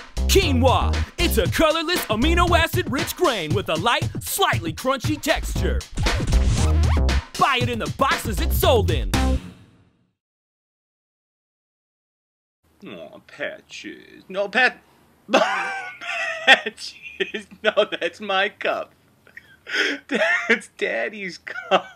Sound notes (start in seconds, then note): 5.9 record scratch; 15.3 laughter